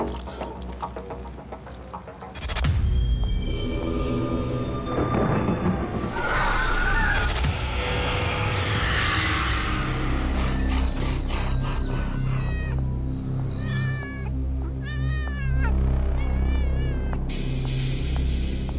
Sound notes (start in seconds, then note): 13.5 cat meowing